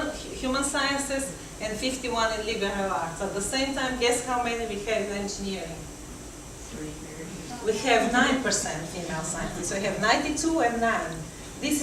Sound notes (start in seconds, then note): 6.6 audience murmuring